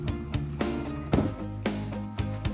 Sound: door shuts

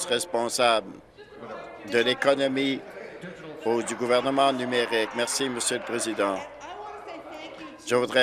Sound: applause

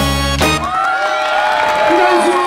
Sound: applause

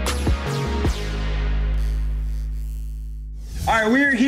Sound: upbeat music; graphics buzz

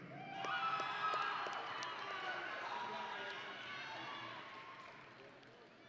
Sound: audience and graduates cheering

